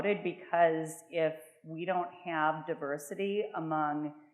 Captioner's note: none